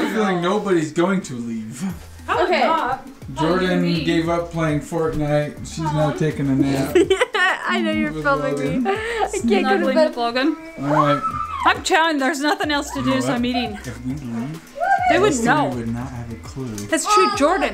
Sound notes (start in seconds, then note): 6.2 laughs